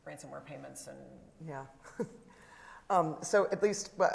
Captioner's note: chuckles